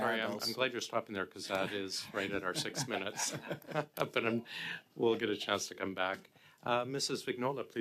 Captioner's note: speaking French